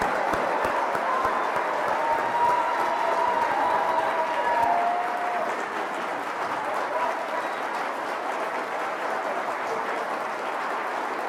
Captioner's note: applause